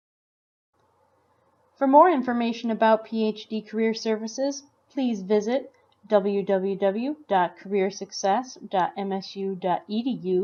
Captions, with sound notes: - [Voiceover] For more information about PhD career services please visit www.careersuccess.msu.edu/phdcareers.